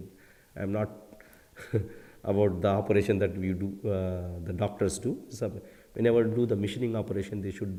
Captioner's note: laugher